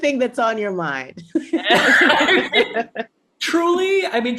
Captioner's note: panelists laugh